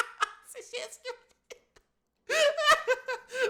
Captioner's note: laugh; laugh